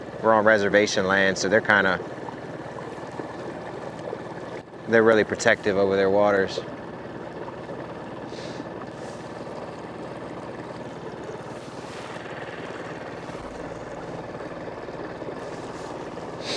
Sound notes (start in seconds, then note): 7.5 motor rumbling; 7.5 water sloshing; 13.9 gentle music